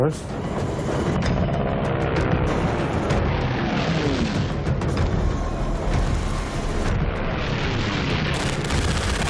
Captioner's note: engines blaring; machine gun firing